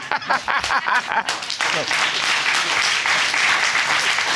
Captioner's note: audience applauding